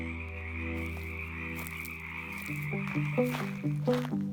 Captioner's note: frogs croaking; thoughtful music